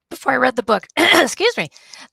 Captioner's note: clearing throat